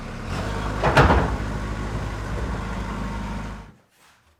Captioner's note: engine whirring